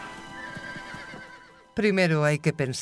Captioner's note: gentle music continues; horse whinnying